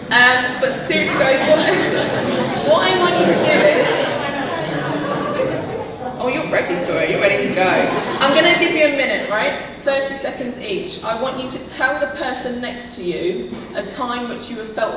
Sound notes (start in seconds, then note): 3.6 audience laughing